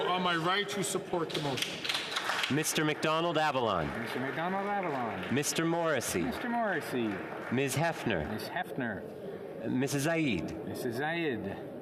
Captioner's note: calling of recorded vote